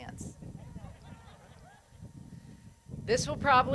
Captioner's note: crowd laughs